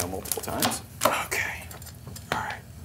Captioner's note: shell cracks